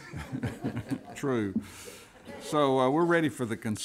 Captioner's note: laughter